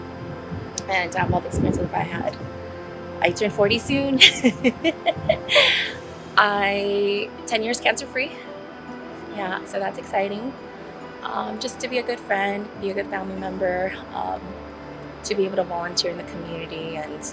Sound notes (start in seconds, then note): 4.1 laughs